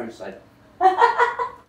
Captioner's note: laughter